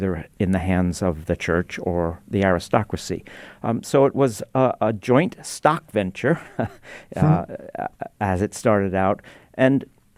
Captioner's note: chuckles